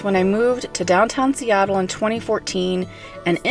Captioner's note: none